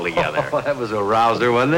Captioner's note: laughing